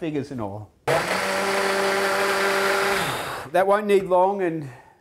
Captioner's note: blender sound